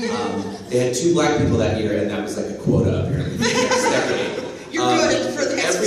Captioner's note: laughter